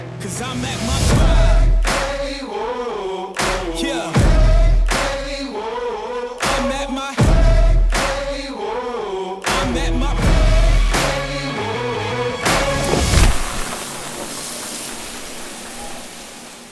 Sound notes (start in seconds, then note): 0.1 upbeat hip-hop music; 12.4 sizzling